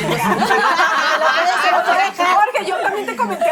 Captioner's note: laugh